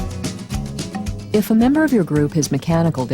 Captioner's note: soft rock music; voiceover